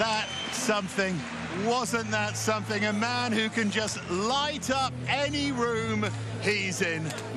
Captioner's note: cheers and applause